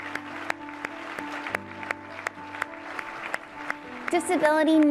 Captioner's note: applause & light music